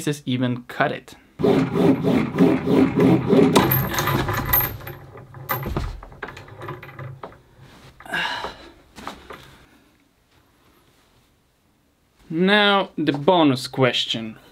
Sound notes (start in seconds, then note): 6.5 rope rasping